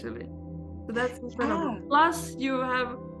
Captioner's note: faintly speaking